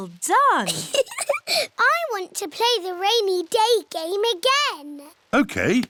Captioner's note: laughs